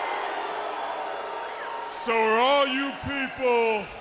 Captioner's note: crowd cheering